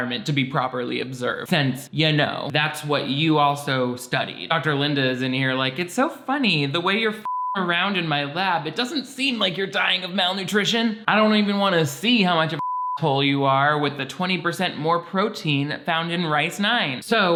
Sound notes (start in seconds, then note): 7.2 beep; 12.5 beep